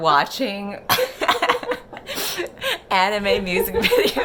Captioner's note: laugh